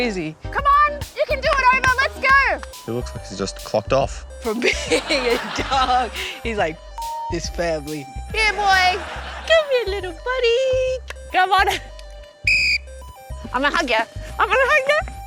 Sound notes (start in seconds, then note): 4.6 laughs; 12.4 whistle blows